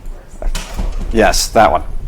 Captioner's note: door closing